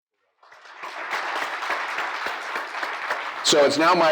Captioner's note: applause